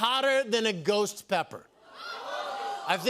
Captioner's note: audience "Ohhs"